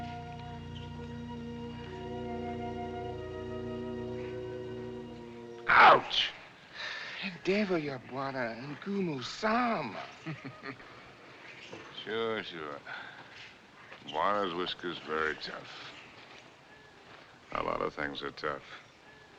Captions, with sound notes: Ouch! [ Complaining In African Language ] [ Chuckling ] Sure, sure. Bwana's whiskers very tough. A lot of things are tough.